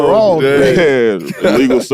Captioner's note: laughs